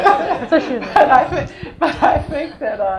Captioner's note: audience laughs